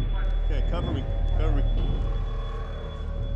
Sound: continuous beep

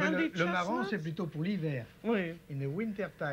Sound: speaking French

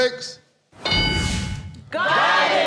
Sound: ding

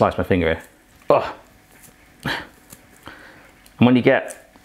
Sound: grunting

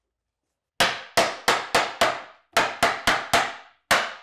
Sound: hammer bangs

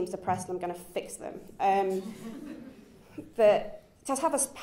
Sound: chuckles

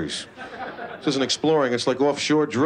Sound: laughter

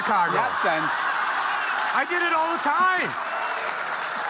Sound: audience laughing

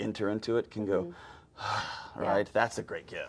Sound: John sighing

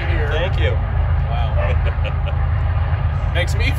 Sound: laughs

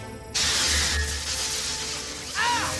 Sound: crackling

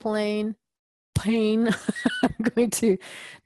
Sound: laugh

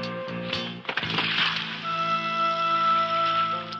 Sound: splashing

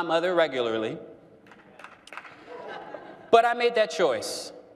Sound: one person clapping

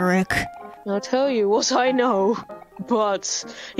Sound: reading text, laughing

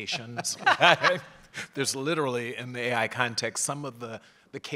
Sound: laugh

